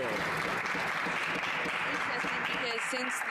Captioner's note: some Applause